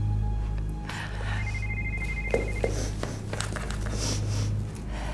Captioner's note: phone ringing